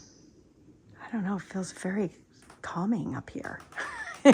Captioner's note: laughing